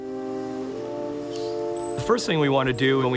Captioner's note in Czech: lehká hudba; skřípání strojů